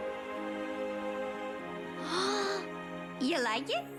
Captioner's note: gasps